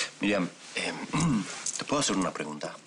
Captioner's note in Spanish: Carraspea